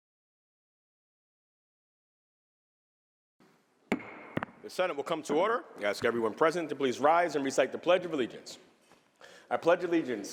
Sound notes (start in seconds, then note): 3.9 gavel bangs